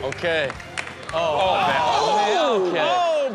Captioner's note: everyone exclaiming